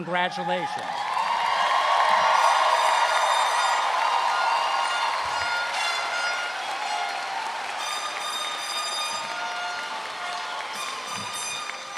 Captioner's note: cheers and Applause